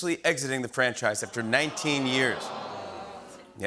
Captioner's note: audience awws